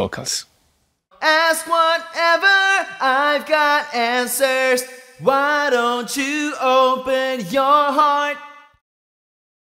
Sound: demonstration Vocal Sonud

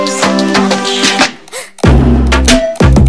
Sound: gasp

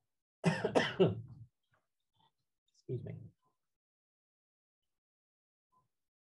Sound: cough

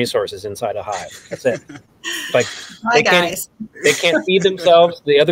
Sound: laughing

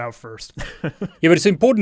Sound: laughing

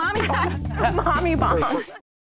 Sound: chuckles

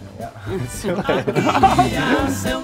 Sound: all laughing; upbeat music

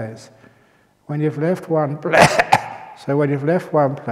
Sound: cough

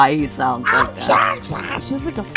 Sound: sounding like he's choking to death

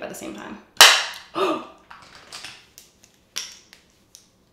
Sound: gasps

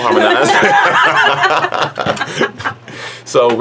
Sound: laughing

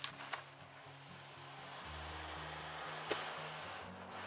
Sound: paper slides

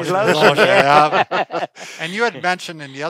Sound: laughing

